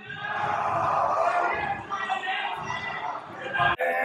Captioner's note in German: Laute Rufe